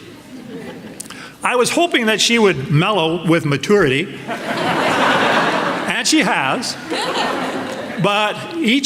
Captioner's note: laughter